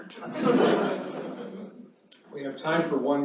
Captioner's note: laughter